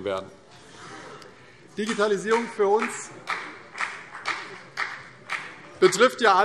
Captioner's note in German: Beifall